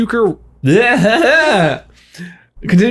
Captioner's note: laughs